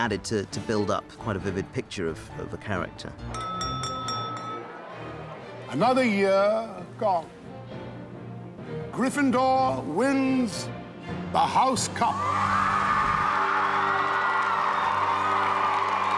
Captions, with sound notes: ...to build up quite a vivid picture of a character. Another year gone. Gryffindor wins the house cup. [CHEERING]